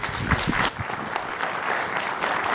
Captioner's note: applause